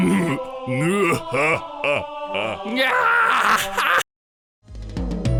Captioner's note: Laughs like Ganon